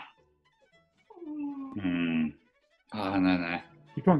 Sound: whines

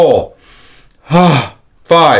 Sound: inhale and exhales

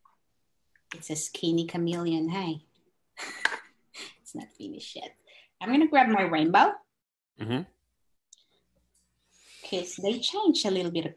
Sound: chuckles

